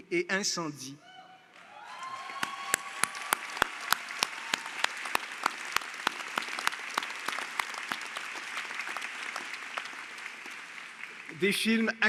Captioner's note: Applaudissements